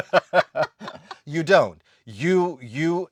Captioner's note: laughs